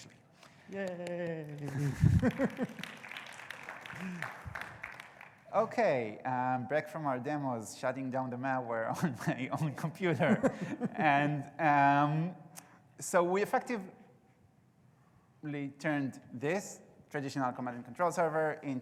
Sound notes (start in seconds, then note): 0.5 audience clapping